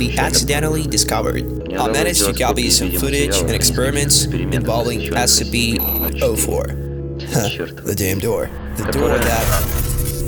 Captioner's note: static